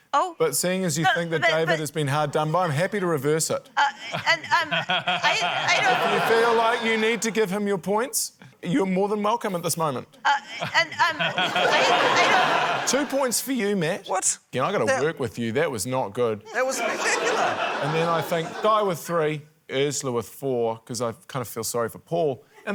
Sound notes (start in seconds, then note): 3.7 stammers; 4.0 laughter; 10.3 stammers; 10.5 laughter